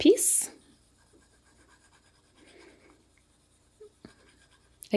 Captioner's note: pencil scratching